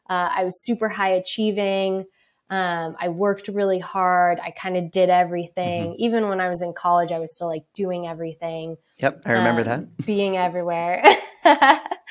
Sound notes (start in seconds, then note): 9.0 laughs